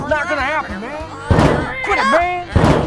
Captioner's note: banging